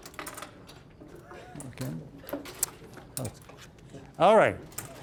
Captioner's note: puzzle pieces clattering